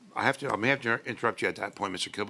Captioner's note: speaking in French